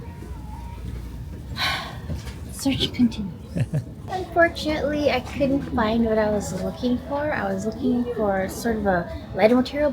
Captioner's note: sigh